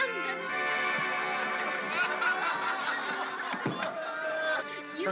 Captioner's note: soft laughter